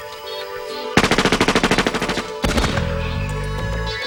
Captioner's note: gun fires